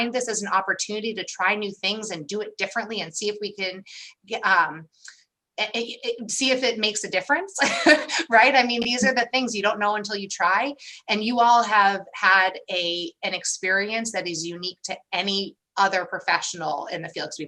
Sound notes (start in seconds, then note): 7.6 laughter